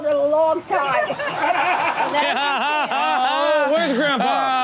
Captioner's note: all laugh